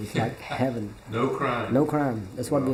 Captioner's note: laughs